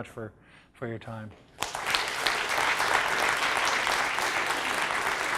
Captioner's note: applause